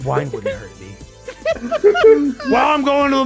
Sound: laughs

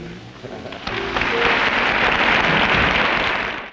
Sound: audience applauding

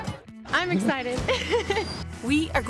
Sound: laughs

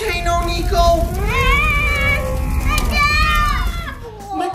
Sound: volcano erupting

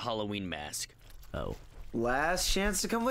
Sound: wet footsteps

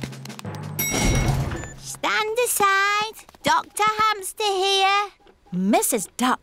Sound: elevator dings

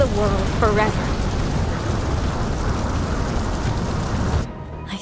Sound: whooshes

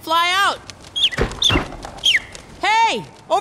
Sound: bird chirps

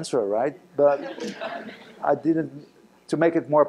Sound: laughter

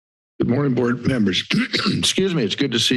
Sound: silence; clears throat

